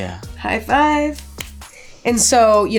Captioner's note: hand smacks